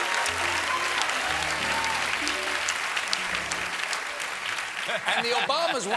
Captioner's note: cheers and applause